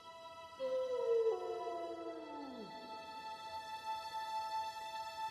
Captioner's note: hushed music; howling continues